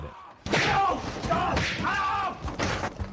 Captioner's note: punches and screaming